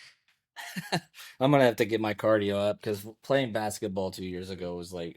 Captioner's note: laughs